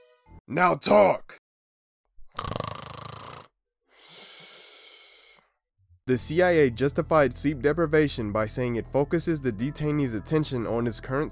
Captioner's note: snores